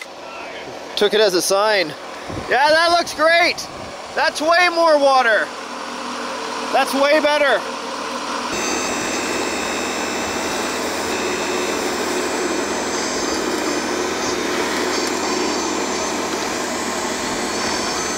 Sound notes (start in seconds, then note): 8.6 engine runs